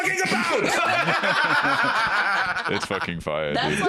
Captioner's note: all laughing